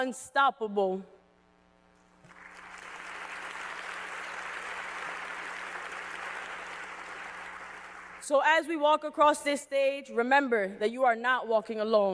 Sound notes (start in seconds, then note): 4.2 cheers and applause